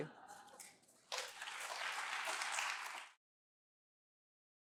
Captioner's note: applause